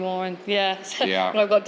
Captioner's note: laughs